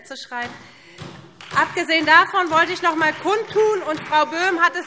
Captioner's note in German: Beifall SPD und vereinzelt Freie Demokraten - Zurufe CDU